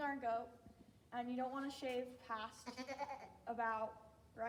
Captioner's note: goat bleats